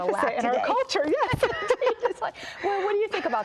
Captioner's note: both laugh